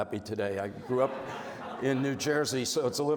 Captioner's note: audience laughs